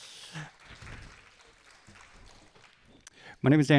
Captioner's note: audience applauding